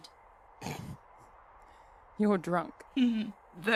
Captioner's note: Regulus snorts